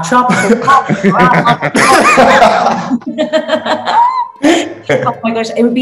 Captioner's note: laughing